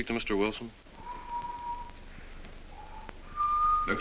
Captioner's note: whistling